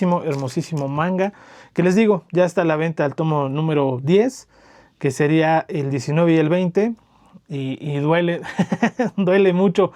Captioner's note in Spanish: risas